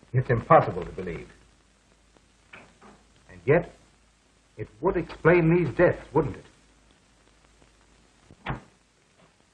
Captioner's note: non-english speech